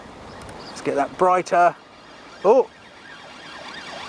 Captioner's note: sound of sirens